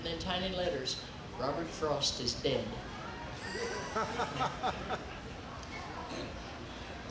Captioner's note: laughing